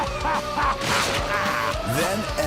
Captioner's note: laughter; passing gas